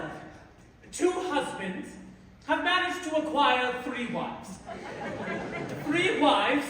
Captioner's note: laughter